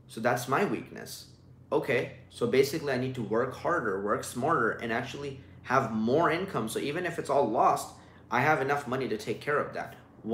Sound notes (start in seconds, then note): none